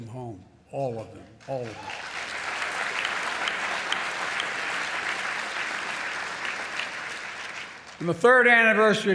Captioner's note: applause